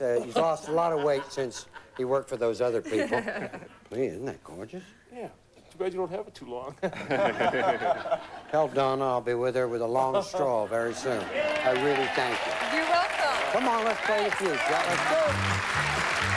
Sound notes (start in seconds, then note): 6.8 laughter